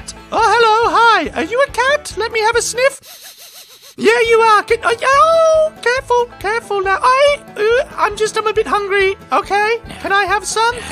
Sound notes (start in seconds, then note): 2.9 sniffin' noises